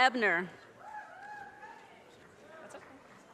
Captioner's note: audience cheers and applause